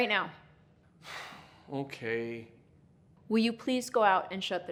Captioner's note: sighs